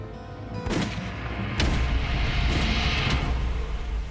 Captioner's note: tense music; gun firing